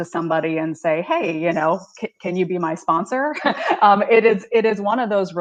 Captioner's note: laughs